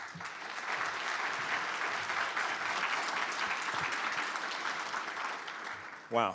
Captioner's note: applause